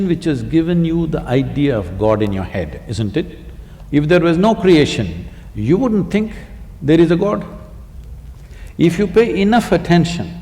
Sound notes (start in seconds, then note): none